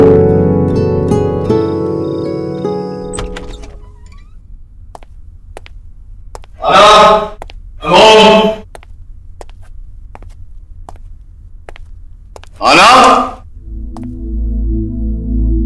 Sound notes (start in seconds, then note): 3.1 Door opens